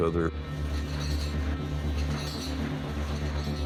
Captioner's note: chain clinks